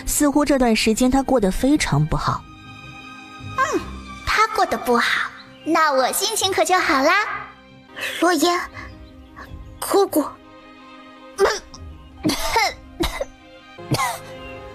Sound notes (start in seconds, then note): 12.2 coughs again